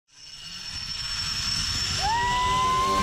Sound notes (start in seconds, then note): 0.0 zipline chain sliding